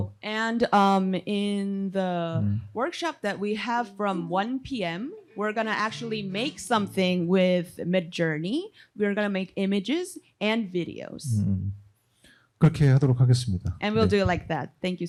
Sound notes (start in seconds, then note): 12.9 speaking korean